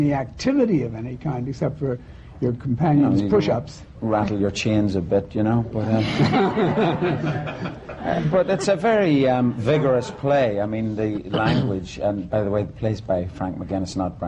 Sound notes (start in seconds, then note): 5.9 laughter